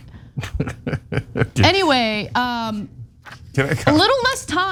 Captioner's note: laugh